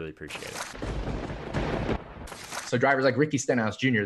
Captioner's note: thunder